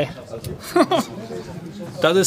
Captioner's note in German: Er lacht auf